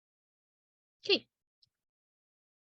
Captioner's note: pause